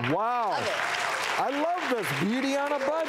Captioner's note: audience clapping